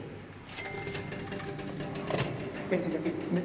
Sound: cash register pling

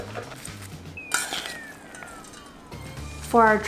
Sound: corn rattling; spoon scraping

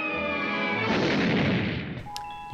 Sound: explosion

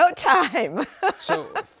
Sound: laughter

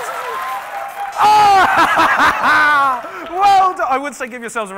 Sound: laughing

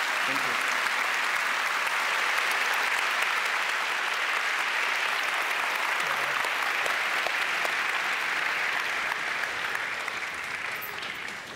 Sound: applause

